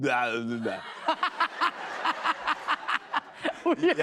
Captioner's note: laughter